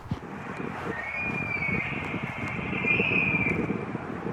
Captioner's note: bull Elk Bugle